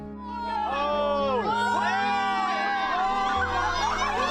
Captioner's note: celebrating